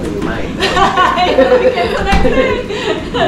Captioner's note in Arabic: يضحك